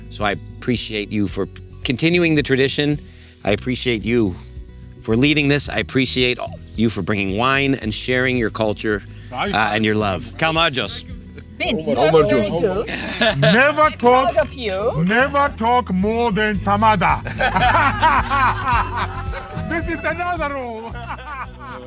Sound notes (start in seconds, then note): 16.8 people laughing